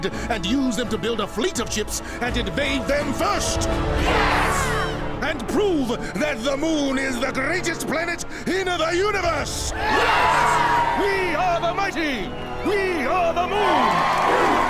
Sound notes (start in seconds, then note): 9.7 cheering